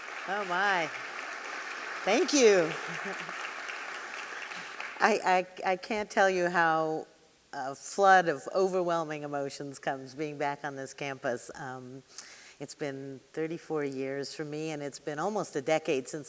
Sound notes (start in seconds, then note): 0.0 audience clapping; 0.0 clapping; 2.8 chuckling